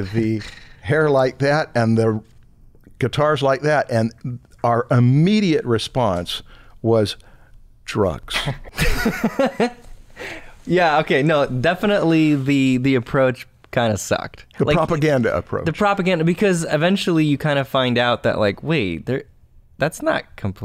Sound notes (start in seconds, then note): 8.4 laughter